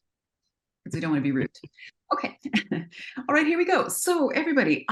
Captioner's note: laughs